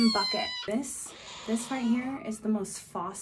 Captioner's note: quiet, raspy meow